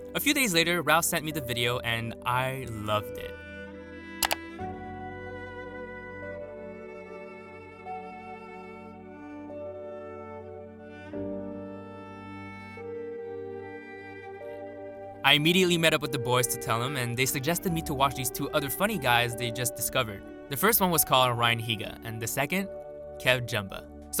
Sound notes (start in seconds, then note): 4.2 mouse click